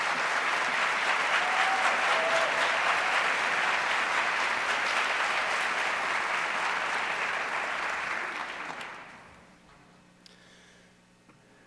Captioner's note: applause